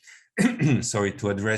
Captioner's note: presenter clearing throat